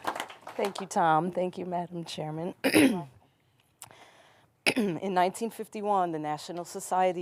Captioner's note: applause